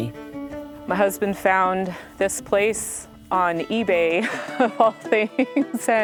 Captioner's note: laughs